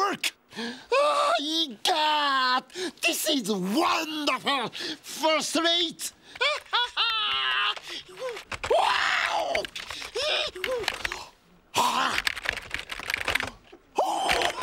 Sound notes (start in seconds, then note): 6.2 whooping and shrieking